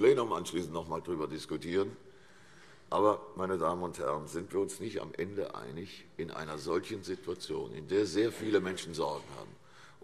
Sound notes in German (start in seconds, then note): none